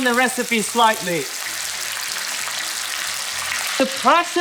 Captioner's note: sizzling sound